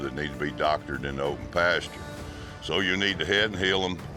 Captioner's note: none